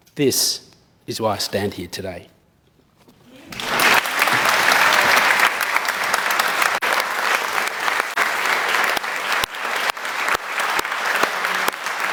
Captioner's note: clapping